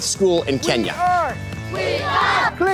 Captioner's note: older Man's Voice; children's Voices